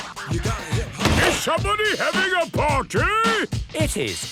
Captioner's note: shouts